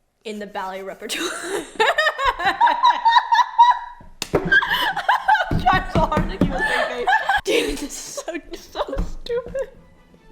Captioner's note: laughs